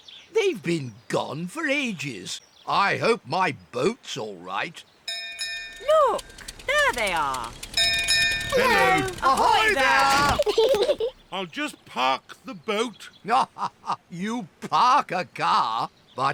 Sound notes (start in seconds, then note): 5.1 bell rings; 8.5 peppa and george giggle; 13.2 laughs